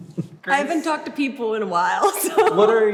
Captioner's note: chuckles